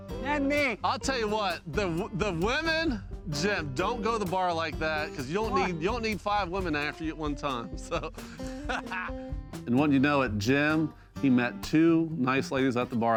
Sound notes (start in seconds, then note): 7.8 laughs